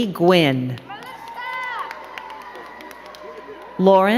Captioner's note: crowd cheering and clapping